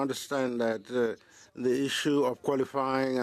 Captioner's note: speaking French